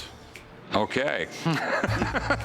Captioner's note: laughs